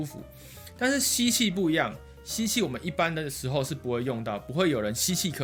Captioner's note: inhaling